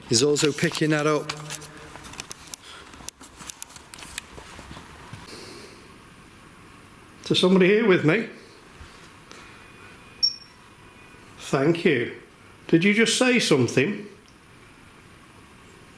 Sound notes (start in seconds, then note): 10.2 high-pitched beeping